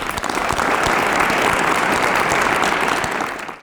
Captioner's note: applause